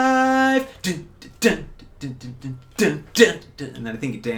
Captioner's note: vocalizing drum beats